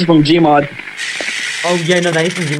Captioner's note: Dilo hissing